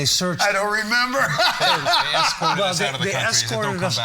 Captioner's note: laughing